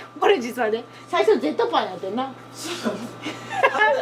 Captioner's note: laughs